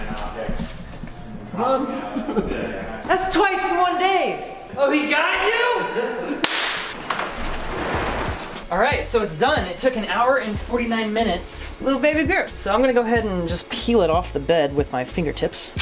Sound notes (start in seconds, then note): 6.4 clap